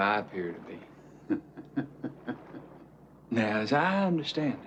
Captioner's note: man chuckles